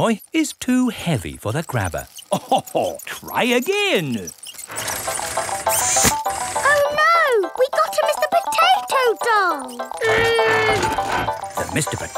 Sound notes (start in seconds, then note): 2.2 chuckles